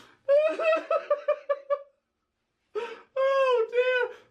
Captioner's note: laughs